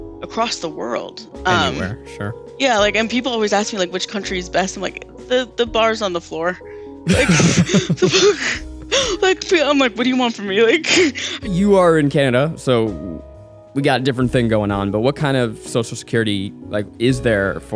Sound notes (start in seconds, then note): 7.0 laugh; 11.0 chuckles